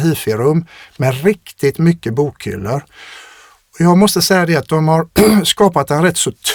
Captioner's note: clears throat